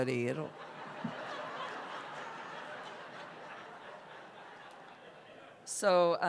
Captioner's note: laughter